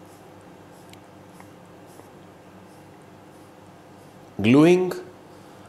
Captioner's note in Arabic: بدون صوت